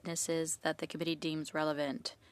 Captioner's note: speaking French